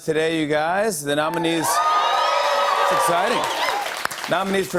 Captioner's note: cheers and applause